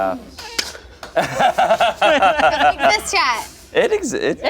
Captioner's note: everyone laughs